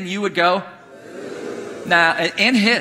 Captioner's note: congregation booing